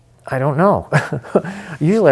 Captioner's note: chuckling